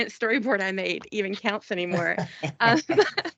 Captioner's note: laughing